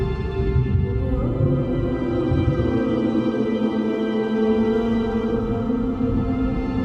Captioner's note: water gurgling; somber vocals